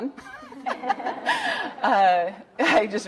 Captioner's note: audience laughing